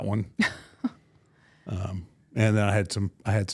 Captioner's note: laughs